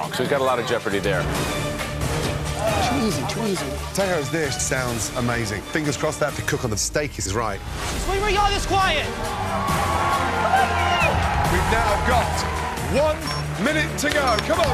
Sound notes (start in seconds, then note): 8.8 cheering